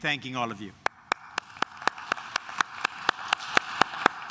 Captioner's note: claps